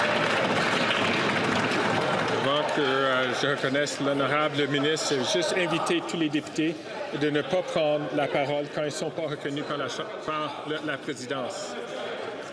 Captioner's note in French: applaudissements